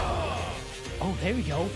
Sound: groaning

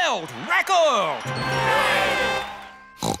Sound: crowd cheering

